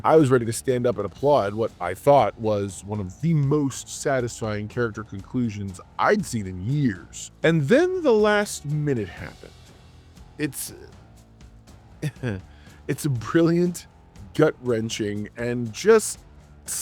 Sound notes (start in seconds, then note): 12.0 laughs